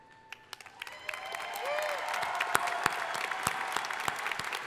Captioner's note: crowd applauding